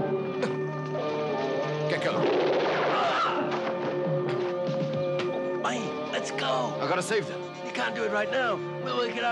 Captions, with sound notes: - (grunts) Get going. (guns blasting) - Mayi, let's go! - I gotta save them. - You can't do it right now.